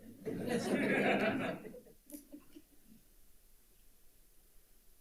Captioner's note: audience laughs